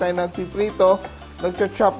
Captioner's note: sizzle